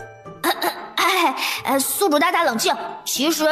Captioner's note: cough